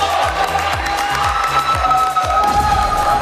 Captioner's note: clapping